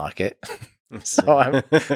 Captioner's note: Lex laughs